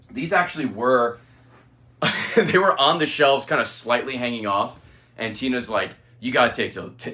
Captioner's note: laughs